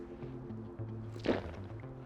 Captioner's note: gulp